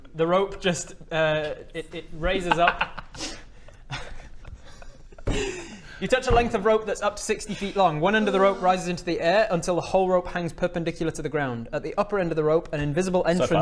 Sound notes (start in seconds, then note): 3.9 giggles